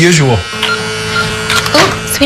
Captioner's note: beeping